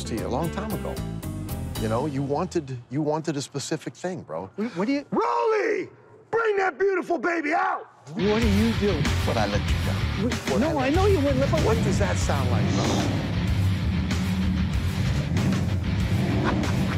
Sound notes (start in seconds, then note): 12.2 engine revving